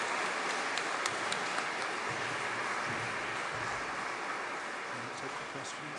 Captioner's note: audience clapping continues